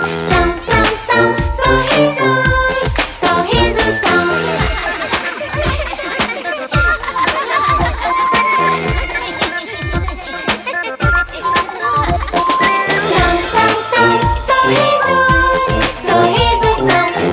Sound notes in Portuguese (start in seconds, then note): 4.4 Música Alegre; 4.5 Risos